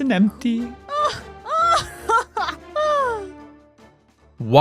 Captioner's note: laughter